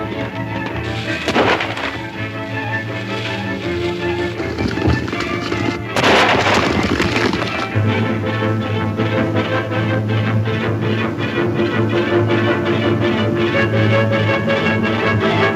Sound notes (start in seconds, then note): 0.9 gunshot bangs; 3.8 suspenseful music crescendos